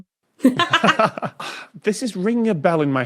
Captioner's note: laugh